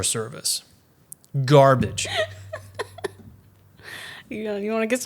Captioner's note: laughs